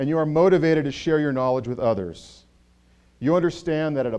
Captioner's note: none